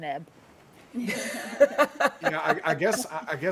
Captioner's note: people laughing